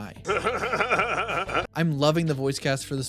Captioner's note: Seth Rogen laugh